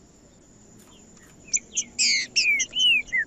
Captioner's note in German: trinca ferro cantando